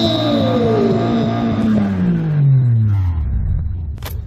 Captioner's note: engine revving its nuts off